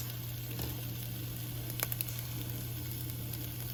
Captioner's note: sizzling